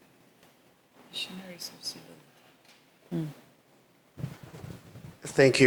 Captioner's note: speaking faintly